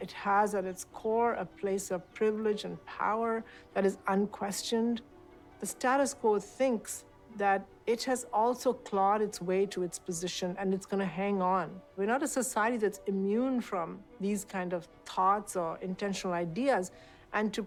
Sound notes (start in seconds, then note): none